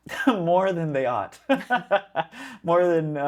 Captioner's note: laughs